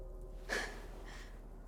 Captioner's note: gasp